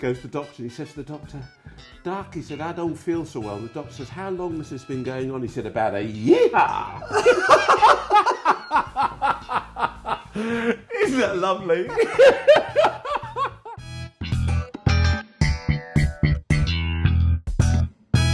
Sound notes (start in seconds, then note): 6.7 laughing; 15.6 upbeat music